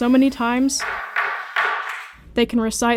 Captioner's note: gavel thudding